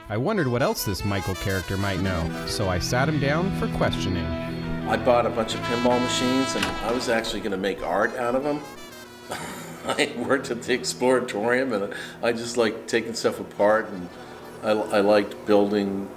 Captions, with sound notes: I wondered what else this Michael character might know. So I sat him down, for questioning. - I bought a bunch of pinball machines, and I was actually gonna make art out of 'em. (chuckles) I worked at the Exploratorium, and I just liked takin' stuff apart, and I liked building,